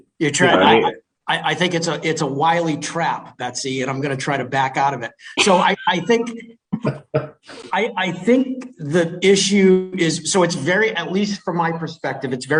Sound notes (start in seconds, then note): 5.0 man laughing